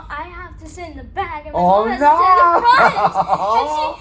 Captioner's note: laughs